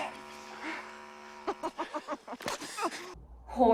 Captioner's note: groaning; laughing